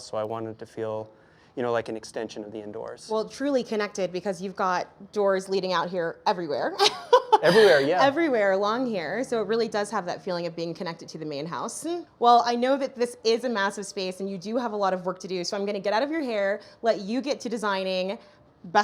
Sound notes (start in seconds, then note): 6.8 chuckles